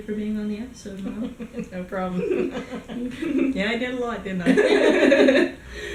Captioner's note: giggles; both laugh